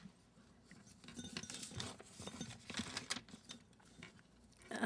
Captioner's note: paper rustling